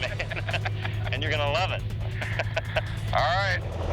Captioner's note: laughs